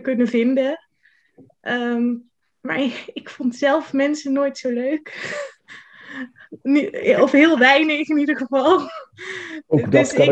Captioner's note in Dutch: gelach